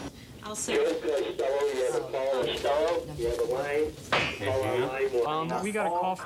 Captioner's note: muffled voice over speaker